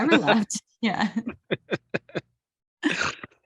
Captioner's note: chuckles